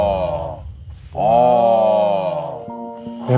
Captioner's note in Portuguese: Exclamando